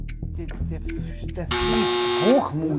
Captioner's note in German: Er stottert